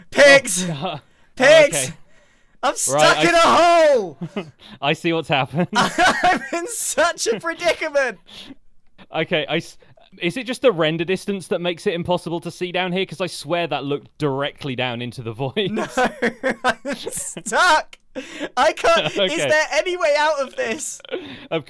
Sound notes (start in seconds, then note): 5.7 laughs; 15.7 laughs